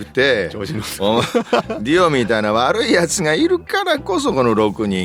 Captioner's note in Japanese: 笑い